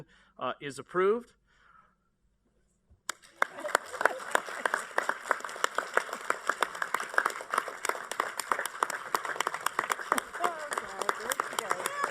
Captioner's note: applause